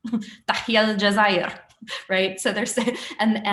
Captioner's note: non-english speech